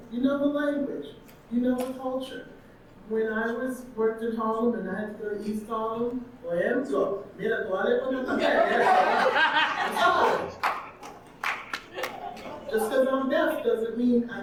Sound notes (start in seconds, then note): 6.4 audience laughing; 6.4 speaking Spanish; 10.2 audience clapping